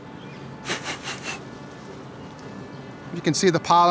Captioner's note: blowing